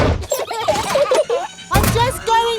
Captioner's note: children giggling